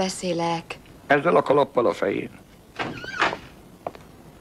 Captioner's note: knocks on door